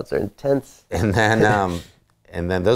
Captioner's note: laughing